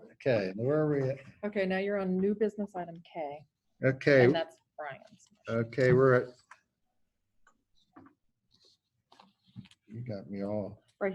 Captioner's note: background chatter